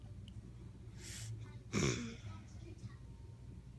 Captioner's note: sniffs and clears throat